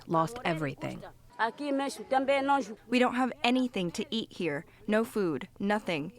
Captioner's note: through translator